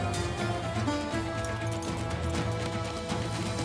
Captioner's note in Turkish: At nalı sesi